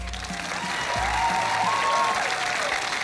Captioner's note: cheering, applause